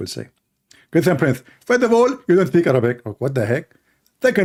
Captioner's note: Mimicking Zakir Naik